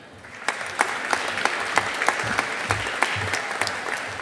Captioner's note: audience applauding